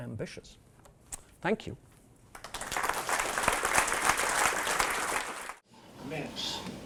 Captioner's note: applause